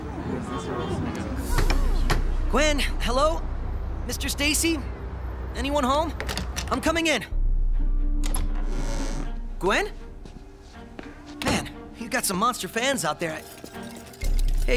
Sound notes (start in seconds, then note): 1.5 knocking